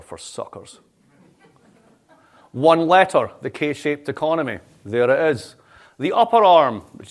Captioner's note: laughter